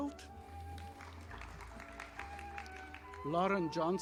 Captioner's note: audience applauding